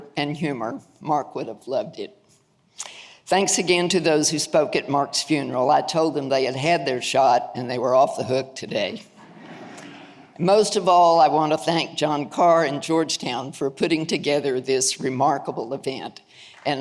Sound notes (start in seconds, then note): 9.2 audience laughing